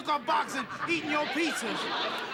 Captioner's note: laughter